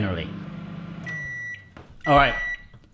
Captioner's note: beep